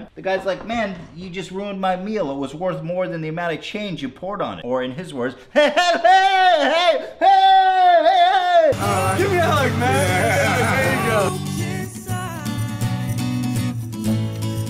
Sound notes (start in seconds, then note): 6.0 more yelling; 6.1 yelling